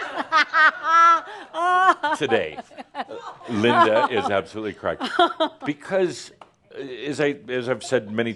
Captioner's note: laughs loudly